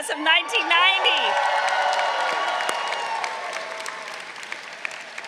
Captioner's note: crowd cheering